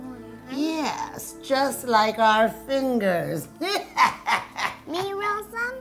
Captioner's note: laughing